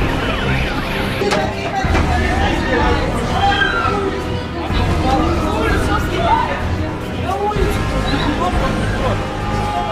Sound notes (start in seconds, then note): 2.2 talking + screaming